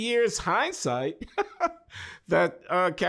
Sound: chuckles

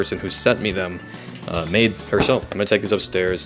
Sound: refrigerator door closes

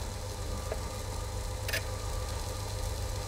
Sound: machine whirring

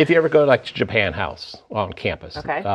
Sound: laughing

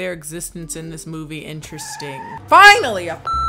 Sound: tires screeching; beep

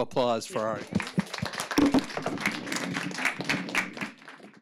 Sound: crowd applauds

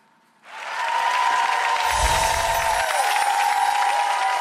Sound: audience cheers

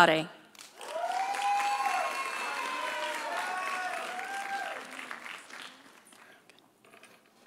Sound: audience applauding; audience cheering

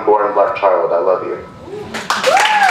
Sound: applause

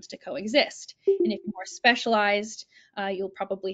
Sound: computer ringing

